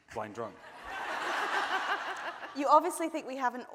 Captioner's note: audience laughing